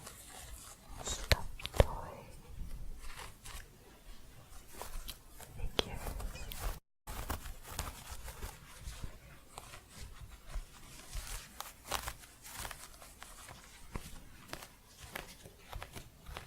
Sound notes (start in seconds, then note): 4.0 scratching; 7.0 crunchy scratching